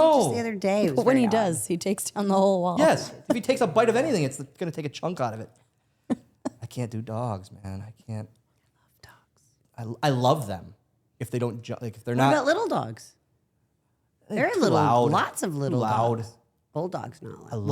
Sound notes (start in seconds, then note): 2.8 Stephanie laughs